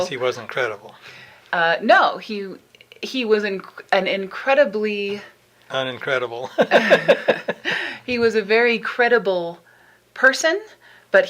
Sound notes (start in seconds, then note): 6.5 laughs